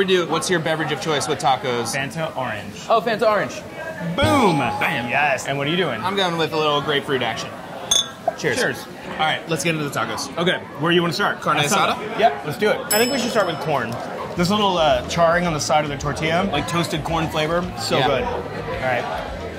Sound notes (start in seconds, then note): 7.6 bottles clinking; 12.9 bell dings